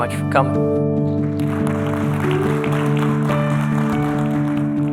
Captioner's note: applause